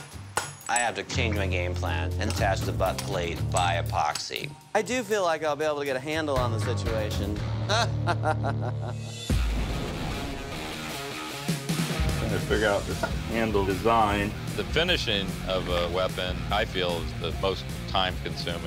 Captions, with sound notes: I have to change my game plan and attach the butt plate by epoxy. I do feel like I'll be able to get a handle on the situation. [laughs] [rock music] I'm trying to figure out this handle design. The finishing of a weapon, I feel, is the most time consuming.